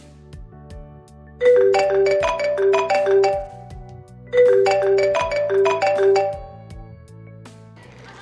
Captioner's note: phone-ringing